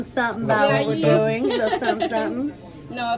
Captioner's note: laughing